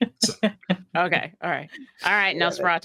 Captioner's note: cast members laughing